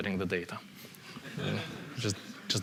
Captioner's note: laughter